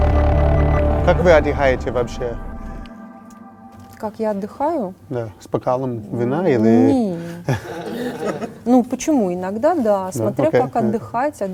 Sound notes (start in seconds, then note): 7.1 laugh